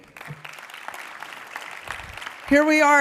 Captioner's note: audience applauding